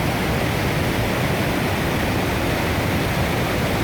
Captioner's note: noise of waterfalls